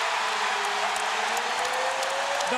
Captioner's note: cheering and applause